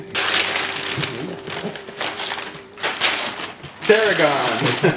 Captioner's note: wrapping paper tearing; laughs